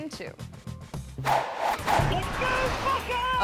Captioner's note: logo whooshing